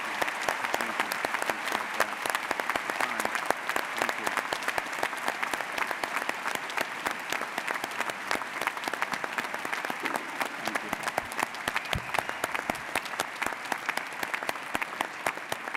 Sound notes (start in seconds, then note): 5.9 audience applauds; 12.2 audience applauds